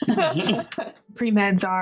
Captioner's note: laughing